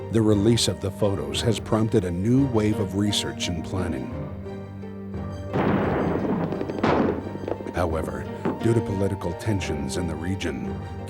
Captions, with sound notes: The release of the photos has prompted a new wave of research and planning. [explosions] However, due to political tensions in the region,